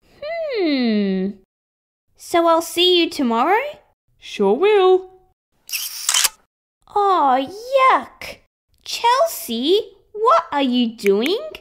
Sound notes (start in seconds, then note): 5.7 snap!